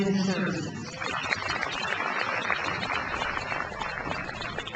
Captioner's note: crowd applauds